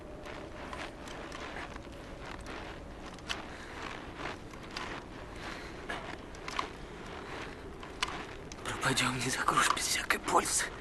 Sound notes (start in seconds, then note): 0.0 crunch of snow